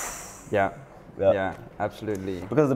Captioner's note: interviewer makes blowing sound